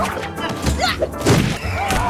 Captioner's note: screaming; grunting and thudding; splashing